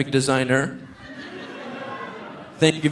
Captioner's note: audience laughing